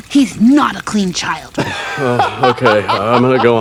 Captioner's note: laughing